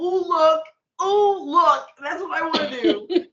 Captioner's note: laughing